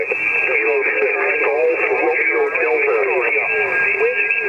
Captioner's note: radio static